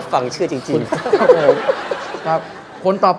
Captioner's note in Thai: หัวเราะ